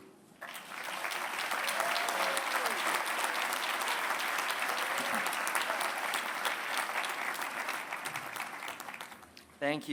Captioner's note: applause